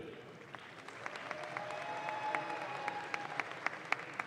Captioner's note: audience claps